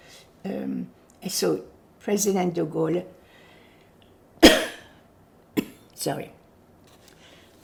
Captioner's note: coughing